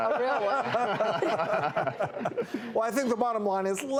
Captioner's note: laughs